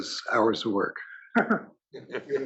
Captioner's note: laugh